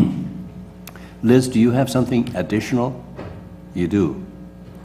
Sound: cough

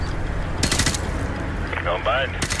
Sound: gunshots clicking

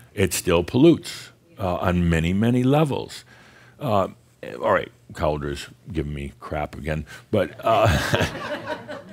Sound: some chuckles

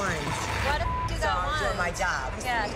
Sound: beep

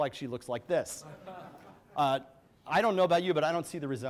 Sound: audience laughs

